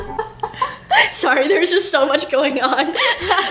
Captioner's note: laughs